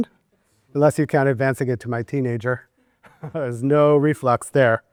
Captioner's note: laughs